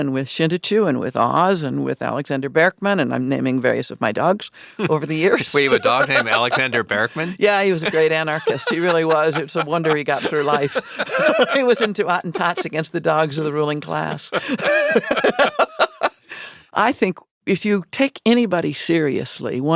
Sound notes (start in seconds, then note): 13.9 laughing